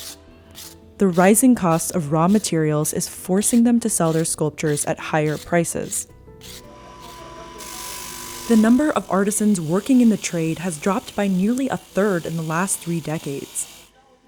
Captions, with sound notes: The rising cost of raw materials is forcing them to sell their sculptures at higher prices. (machine whirring) The number of artisans working in the trade has dropped by nearly a third in the last three decades.